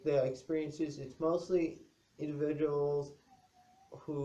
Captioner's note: dog whine in background